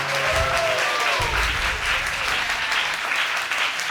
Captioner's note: audience applauds